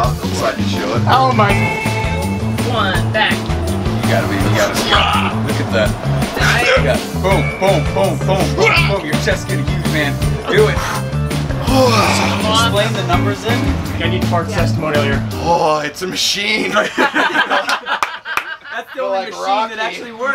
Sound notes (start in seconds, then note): 3.5 crowd offers encouragement